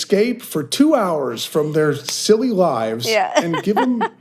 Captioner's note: laughs